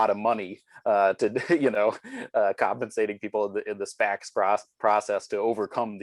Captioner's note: laughs